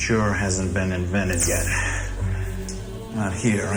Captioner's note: Hypo-spray hissing